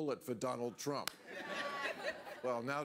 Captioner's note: audience laughs